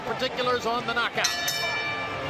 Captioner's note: bell dings